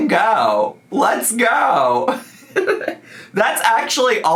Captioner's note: laughs